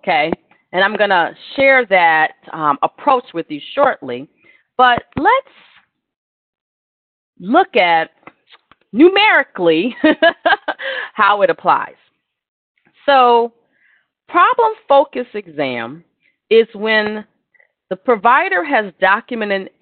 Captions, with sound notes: I'm going to share that approach with you shortly. But let's look at numerically [LAUGHTER] how it applies. Problem-focused exam is when the provider has documented